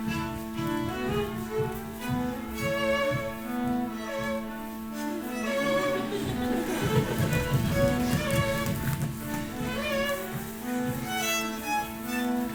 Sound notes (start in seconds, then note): 5.5 footsteps stomping; 5.6 group laughing